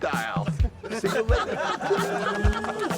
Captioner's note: laughter